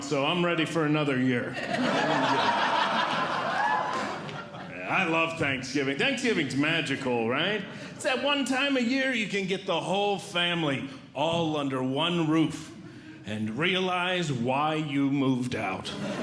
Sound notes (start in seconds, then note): 1.5 audience Laughing